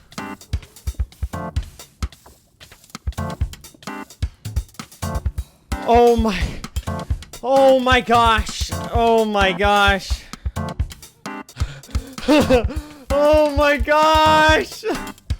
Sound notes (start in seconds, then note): 0.2 tense Music; 6.2 exasperated breath; 11.4 airy laugh; 11.5 relieved breath